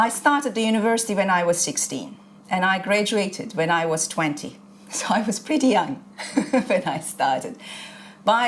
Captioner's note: chuckles